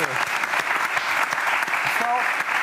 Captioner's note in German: Applaus